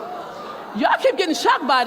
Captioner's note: crowd hoots